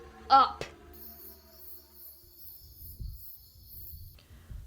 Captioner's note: crickets chirping; foreboding music